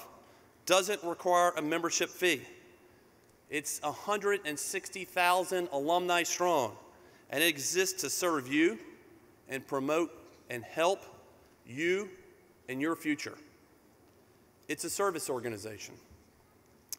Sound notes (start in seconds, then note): none